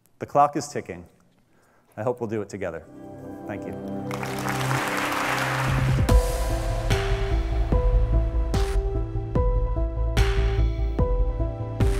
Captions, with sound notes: The clock is ticking. I hope we'll do it together. Thank you. (applause) (upbeat music)